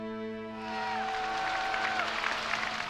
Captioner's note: crowd cheering